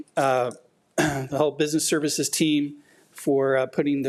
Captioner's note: clears throat